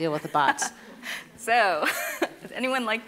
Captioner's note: laughing